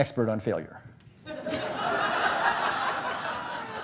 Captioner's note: laughs